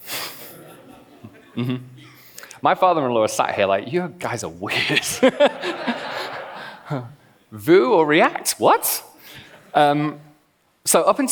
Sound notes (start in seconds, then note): 0.5 laughs; 4.8 laughs